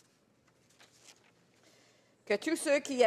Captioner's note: speaking French